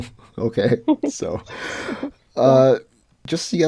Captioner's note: laughs